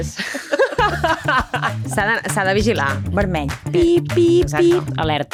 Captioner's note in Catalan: rialles